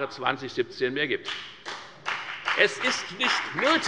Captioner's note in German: Beifall bei der FDP